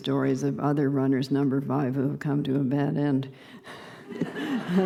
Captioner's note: laughter